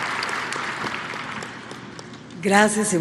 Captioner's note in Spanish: aplausos